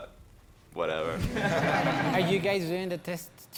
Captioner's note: participants laugh